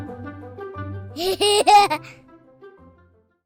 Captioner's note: laughter